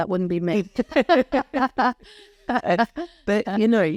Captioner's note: laughing